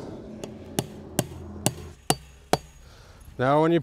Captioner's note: hammer clanging